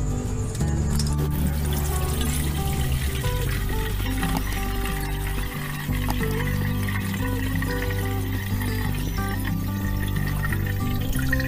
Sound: pouring water SOUND

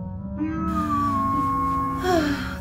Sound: annoyed robot beep

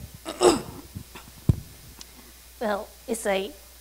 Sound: clears throat

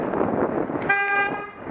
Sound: car horn sounds behind

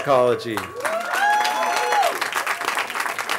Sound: cheering

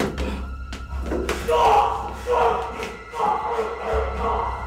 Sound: crying out

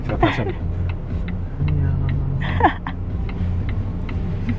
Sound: different voice

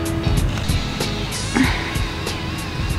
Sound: very manly breathes out

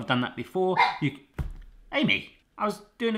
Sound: dog barks

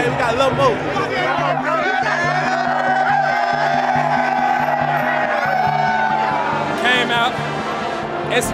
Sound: cheering

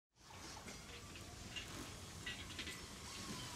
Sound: tools clinking

